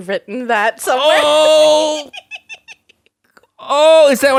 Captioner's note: giggles